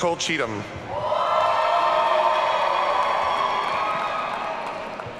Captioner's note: audience cheering